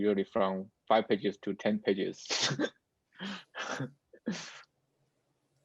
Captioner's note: laughs